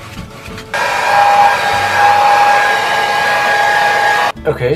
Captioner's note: loud hair dryer sound